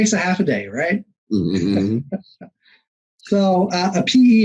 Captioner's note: both chuckling